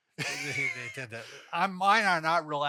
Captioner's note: chuckles